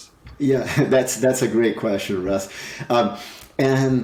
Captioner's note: chuckles